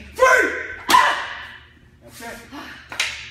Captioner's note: board being hit